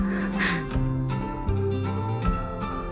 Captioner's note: Wendy soft chuckle; soft music